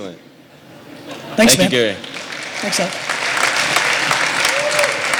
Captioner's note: applause